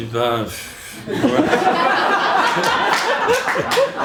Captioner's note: laughter